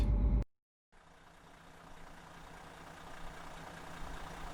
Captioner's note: car engine rumbles